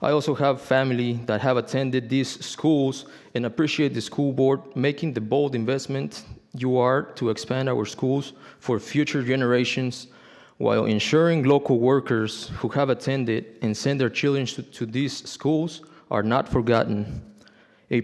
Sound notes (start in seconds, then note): none